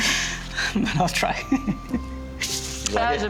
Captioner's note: laughing